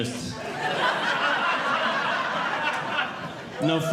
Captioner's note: audience Laughing